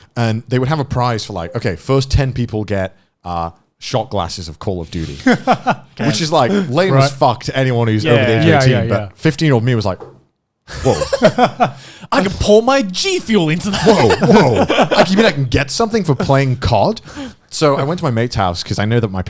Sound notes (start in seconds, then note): 5.0 laughing; 10.7 laughing